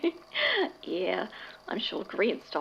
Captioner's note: giggles